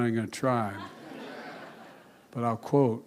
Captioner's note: laughter